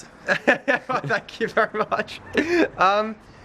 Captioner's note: laughing